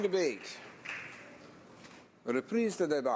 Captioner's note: some Applause